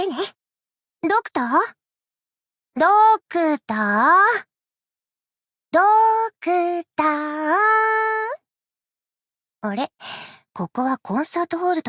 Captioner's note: sigh